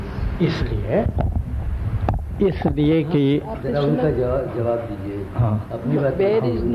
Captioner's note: discussion in Hindi